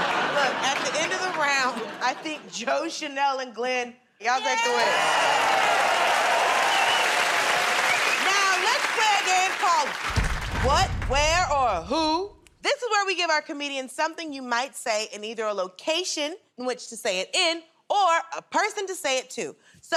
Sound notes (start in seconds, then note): 4.5 cheers and applause